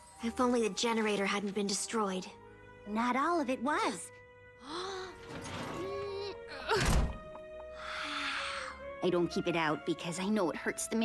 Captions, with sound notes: IF ONLY THE GENERATOR HADN'T BEEN DESTROYED -- NOT ALL OF IT WAS. [ GASPS ] WOW! I DON'T KEEP IT OUT BECAUSE I KNOW IT HURTS THE MAYOR